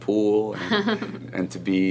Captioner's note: laughs